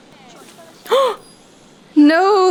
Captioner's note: gasp